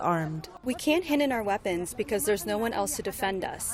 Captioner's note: through translator